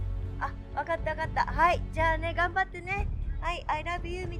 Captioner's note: mom speaking foreign language